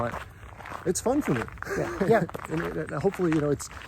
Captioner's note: laughs